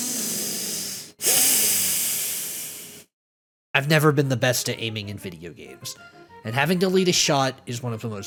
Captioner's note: inhales